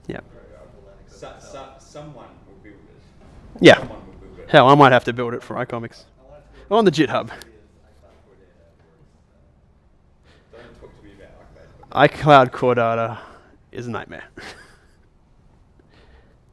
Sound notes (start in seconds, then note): 7.6 voiceover; 14.3 chuckles